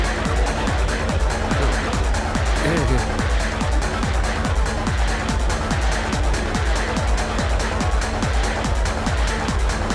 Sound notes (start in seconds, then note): 2.5 grunt